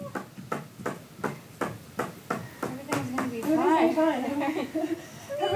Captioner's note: dancer's foot taps